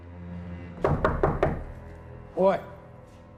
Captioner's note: pounding on door